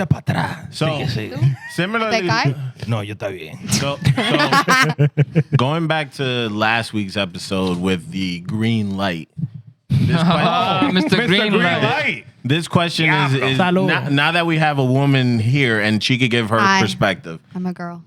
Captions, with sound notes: (Speaking In Foreign Language) So, similarly-- (Speaking In Foreign Language) (Laughing) Going back to last week's episode with the green light. Mr. Green Light. This question is now that we have a woman here and she can give her perspective. I'm a girl.